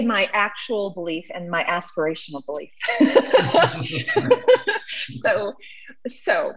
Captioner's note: both laughing